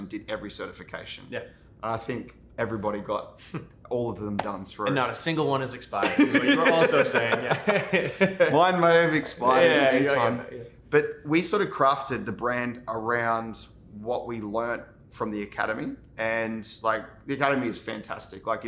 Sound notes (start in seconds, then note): 6.0 both laughing